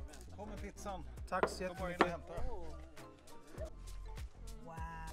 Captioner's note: people speaking Swedish